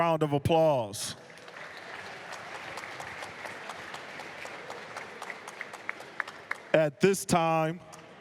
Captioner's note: applause